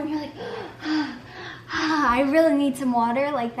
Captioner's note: panting